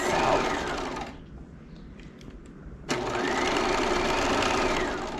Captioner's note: sewing machine whirling